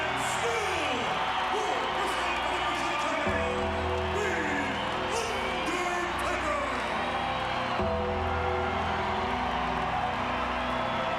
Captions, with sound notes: and still World Wrestling Federation Champion, The Undertaker! (crowd cheering continues)